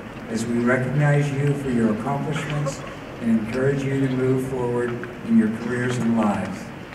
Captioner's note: none